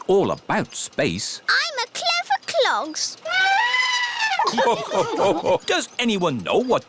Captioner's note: trumpets; all laugh